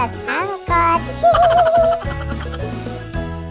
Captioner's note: sound laugh